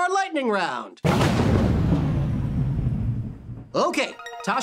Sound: thunder rumbles; countdown music

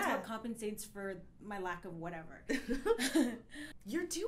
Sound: laughs

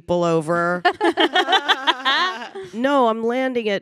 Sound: panelists laughing

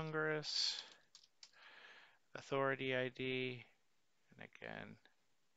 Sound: keyboard clicking

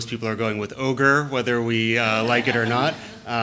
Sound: laughter

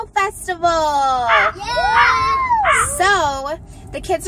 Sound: children cheer

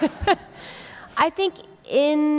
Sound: laughter

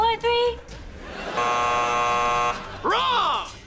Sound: buzzing

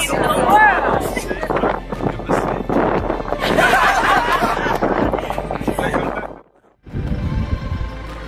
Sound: laughter

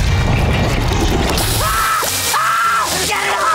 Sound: screaming

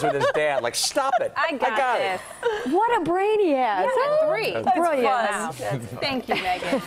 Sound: laughter

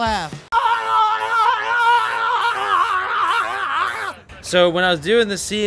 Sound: screaming

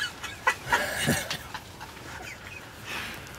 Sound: laughter

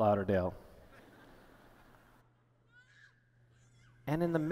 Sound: laughter

